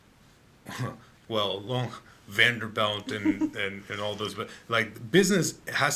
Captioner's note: chuckles